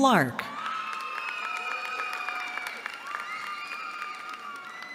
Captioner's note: cheering